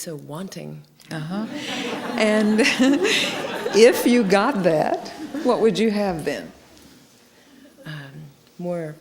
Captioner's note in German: Gelächter